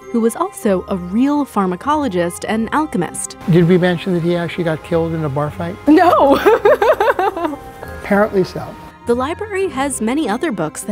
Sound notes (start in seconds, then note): 6.0 laughs